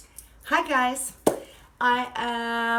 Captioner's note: hands clap